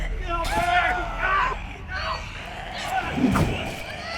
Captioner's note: growling; screaming; yelling